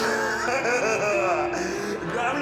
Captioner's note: plays piano; laughs